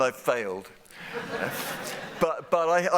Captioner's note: laughter